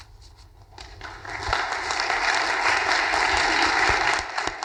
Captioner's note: audience applauding